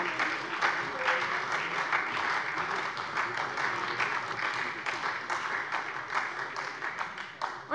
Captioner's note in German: Beifall SPD